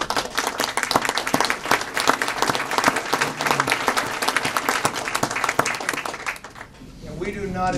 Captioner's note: applause